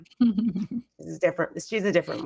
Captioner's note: giggling